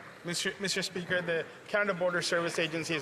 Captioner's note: some Applause